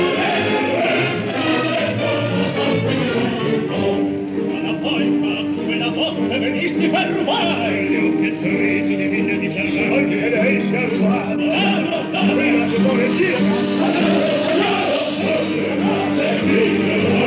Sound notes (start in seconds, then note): 4.9 with dramatic accent